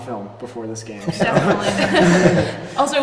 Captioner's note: laughing